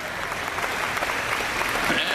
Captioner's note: audience clapping